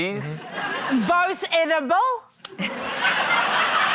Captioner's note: laughter